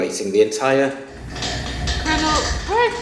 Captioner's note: loud banging